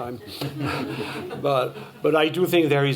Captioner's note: laughter